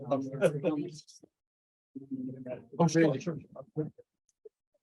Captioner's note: group chattering